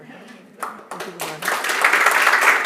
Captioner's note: applause